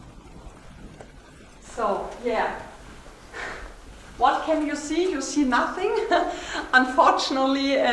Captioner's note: laughter